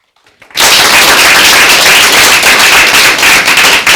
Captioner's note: people applauding